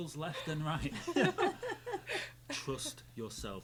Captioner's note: group laughing